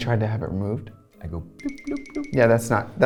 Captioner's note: twinkling